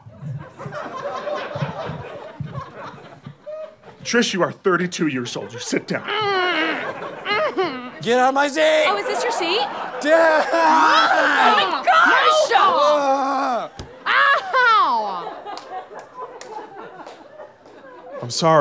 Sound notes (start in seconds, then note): 0.0 audience laughter; 6.0 frustrated grunts; 12.3 yelling; 15.4 audience laughter